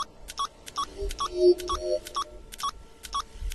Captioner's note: The TARDIS agreeing